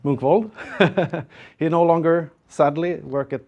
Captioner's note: laugh